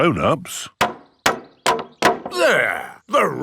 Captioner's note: hammering